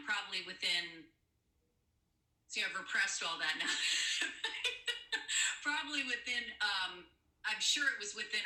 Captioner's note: laughter